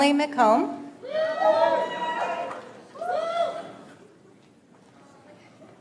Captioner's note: audience applauds